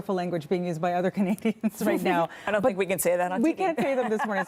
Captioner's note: laughter